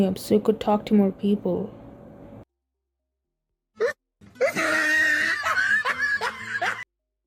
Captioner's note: laughs at his own joke